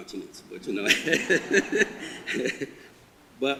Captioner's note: audience laughter